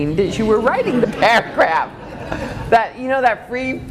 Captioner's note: laughing